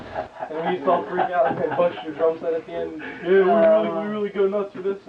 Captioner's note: laughing